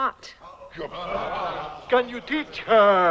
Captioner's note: men chattering